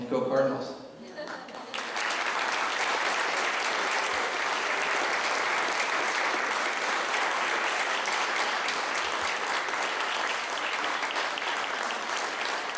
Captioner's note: clapping